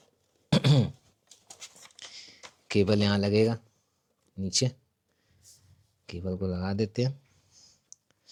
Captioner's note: clears throat